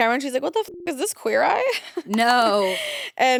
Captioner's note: beep